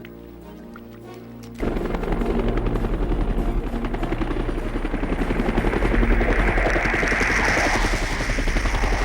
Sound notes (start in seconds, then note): 1.6 helicopter whooshing